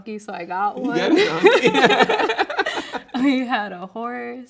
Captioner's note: both laughing